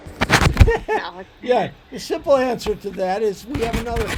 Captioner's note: laughs